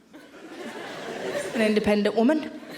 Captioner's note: audience laughing